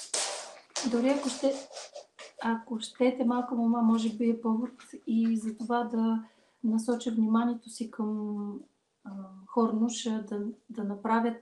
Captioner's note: foreign Language followed by English Interpreter